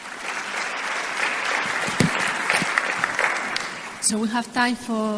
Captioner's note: audience applauding